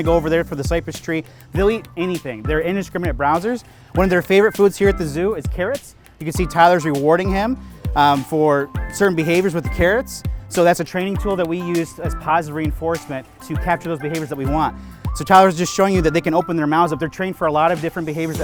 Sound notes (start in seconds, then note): none